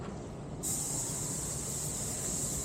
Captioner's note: air hissing